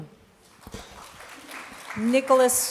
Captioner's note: applause